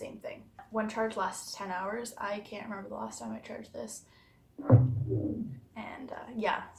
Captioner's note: speaker makes noise to turn off